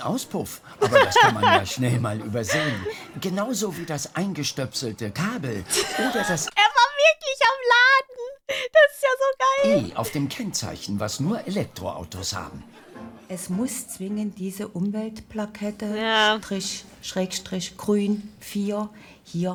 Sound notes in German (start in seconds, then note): 0.8 lacht; 5.8 lacht & stoppt